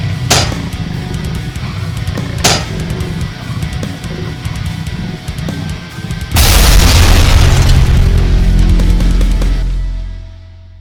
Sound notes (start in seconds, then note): 0.0 legs clanking; 6.3 ground crashes